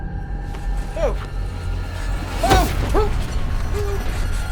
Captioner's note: Felix yelling